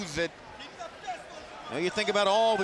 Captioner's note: fans cheering